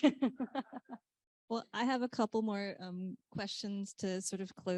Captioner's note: laughs